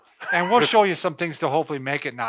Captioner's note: laughs